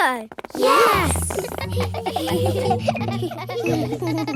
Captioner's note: giggling